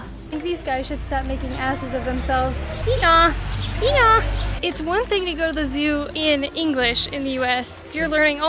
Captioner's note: donkey noises